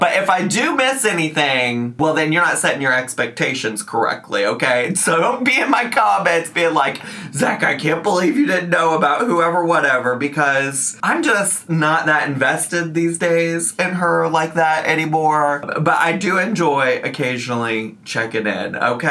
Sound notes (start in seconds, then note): none